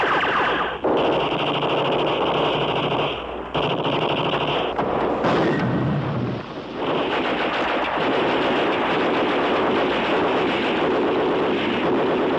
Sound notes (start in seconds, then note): 4.9 blast